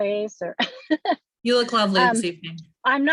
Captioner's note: speaker laughing